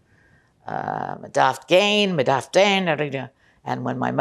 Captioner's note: non-english